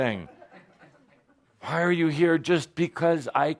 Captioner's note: laughter